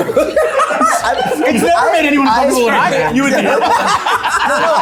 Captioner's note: people laughing